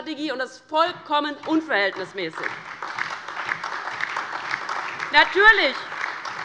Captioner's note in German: Beifall DIE LINKE, SPD und Freie Demokraten